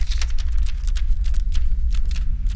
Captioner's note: paper rustling